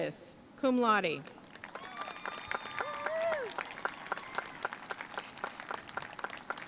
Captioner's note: audience cheering and applauding